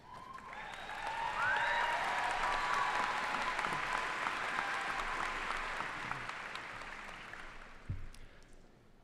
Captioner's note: cheers and applause